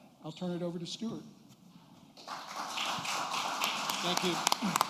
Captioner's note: applause